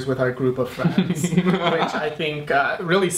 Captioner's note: laughs